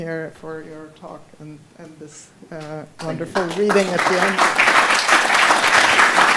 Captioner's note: applause